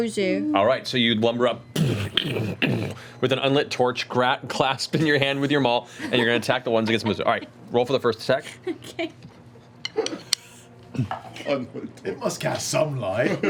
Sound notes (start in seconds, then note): 8.5 laughs